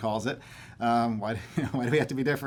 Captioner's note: chuckling